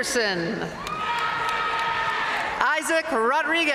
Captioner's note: audience cheering and applauding